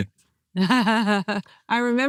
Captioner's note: laughs